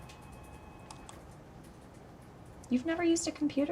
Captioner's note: phone ringing in distance; mouse clicking